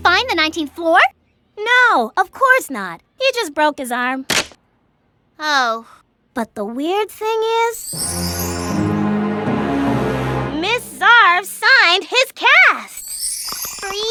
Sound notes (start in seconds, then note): 4.3 arm cracks